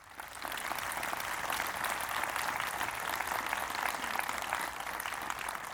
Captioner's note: applause